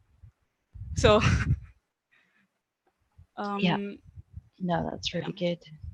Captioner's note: laughing